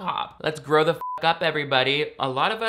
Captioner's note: beep